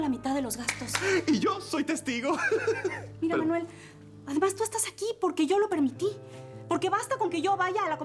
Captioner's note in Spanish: Risas